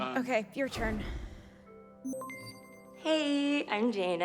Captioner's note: system beeps